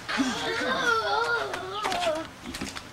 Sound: withering groan

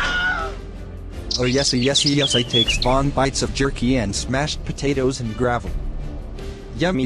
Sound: birds Chirping

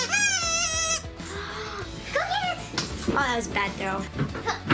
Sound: gasp

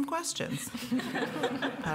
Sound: chuckles

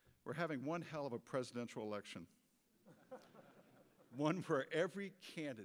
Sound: quiet audience laughter

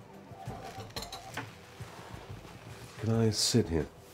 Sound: phones ring

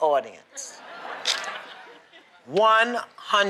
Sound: laughter

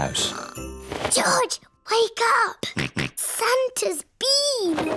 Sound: snorts

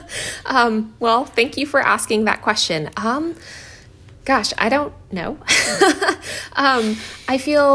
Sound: laughter

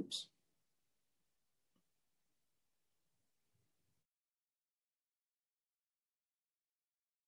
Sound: silence

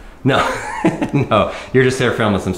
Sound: laughs

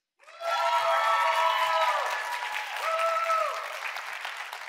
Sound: audience cheering

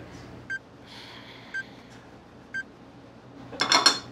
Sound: bomb ticking

